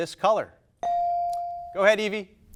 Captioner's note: buzzer dinging